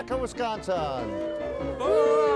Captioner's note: everyone cheering